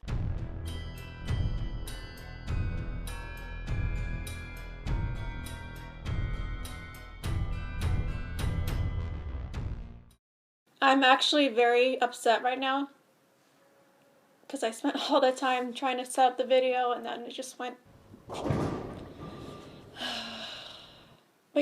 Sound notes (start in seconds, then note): 18.0 bowling alley strike sound effect; 19.7 sighs with disappointment